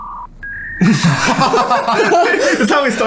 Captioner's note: laughing